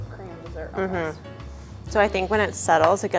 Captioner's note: hums in agreement